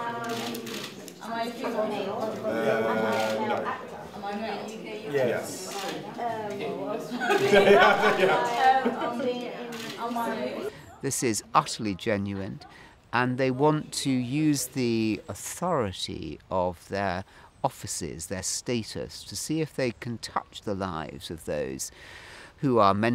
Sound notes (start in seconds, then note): 7.2 both laughing